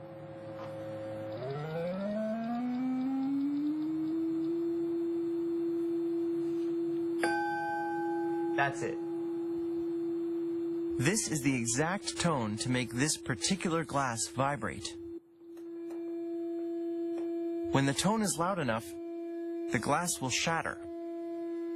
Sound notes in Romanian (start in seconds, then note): 7.2 Ding!